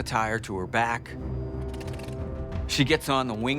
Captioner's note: plane engine roaring